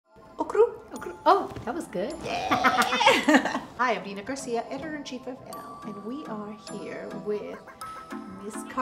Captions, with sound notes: - Okurr. - Oh that was good. - Yeahhhhh. (laughing) - Hi, I'm Nina Garcia, editor-in-chief of Elle, and we are here with Ms. Cardi B.